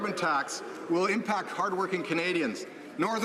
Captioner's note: some Applause